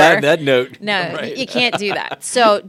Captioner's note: laughing